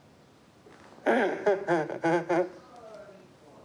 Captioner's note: laughs